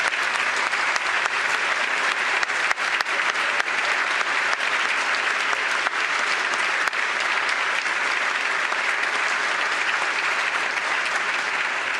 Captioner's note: applause